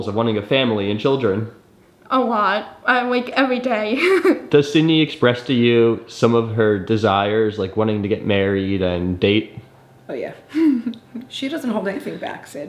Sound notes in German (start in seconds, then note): 3.9 lacht